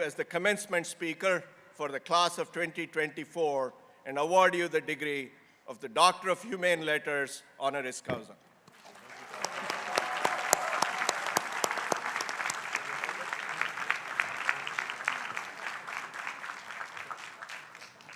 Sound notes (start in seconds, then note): 9.3 crowd applauding